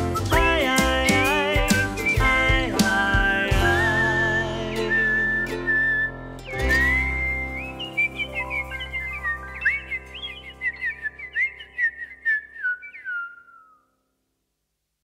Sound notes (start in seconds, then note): 6.4 birds chirping